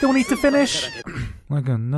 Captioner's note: clears throat